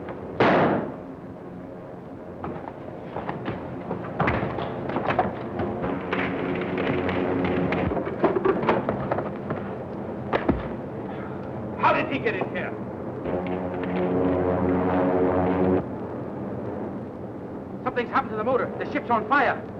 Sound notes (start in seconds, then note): 0.3 gun firing; 6.6 flames crackling; 13.8 engines whirring